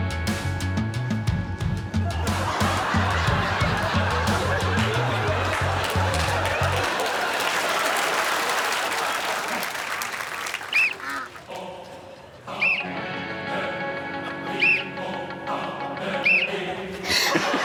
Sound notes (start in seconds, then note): 0.2 blows whistle; 12.6 blows whistle; 14.6 blows whistle; 14.6 whistle blows